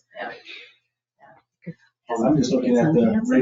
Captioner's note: people chattering